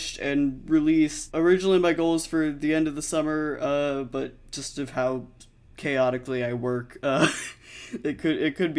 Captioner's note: laughs